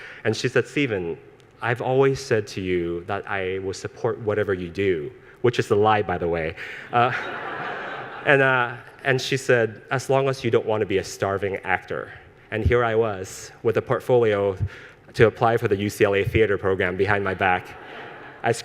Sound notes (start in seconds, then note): 6.9 audience laughs